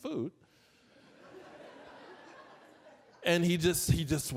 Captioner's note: audience laughing